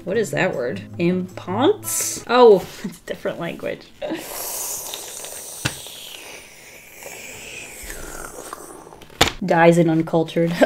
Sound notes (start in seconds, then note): 4.1 inhales and breathes out in embarrassment